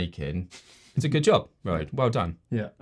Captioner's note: chuckles